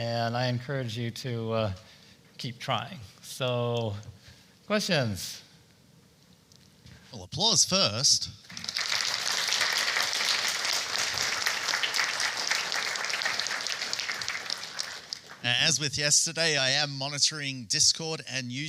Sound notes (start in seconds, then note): 8.4 applause